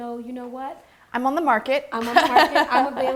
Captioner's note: laughing